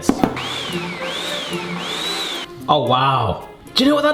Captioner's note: blender whizzing